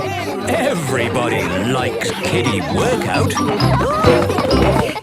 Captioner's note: laughter